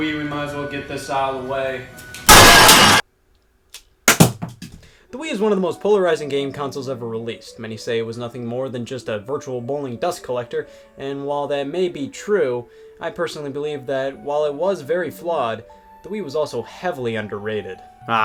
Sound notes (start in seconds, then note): 2.2 television smashes; 4.1 remote drops